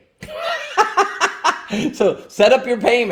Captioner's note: laughs